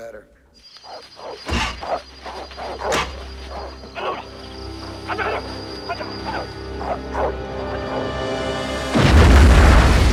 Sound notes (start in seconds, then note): 0.6 dogs Barking; 3.8 Shouting In Korean; 3.8 barking Continues